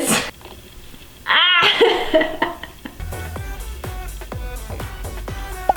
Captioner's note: laughs